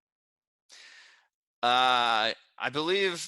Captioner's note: breathes deeply